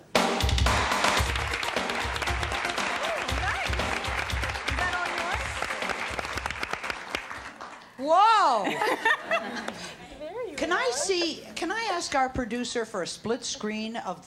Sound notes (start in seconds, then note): 0.2 engaging music; 1.0 audience applauds and cheers